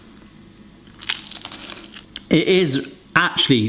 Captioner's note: samosa crunches